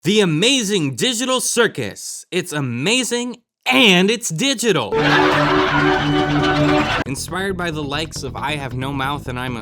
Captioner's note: laughing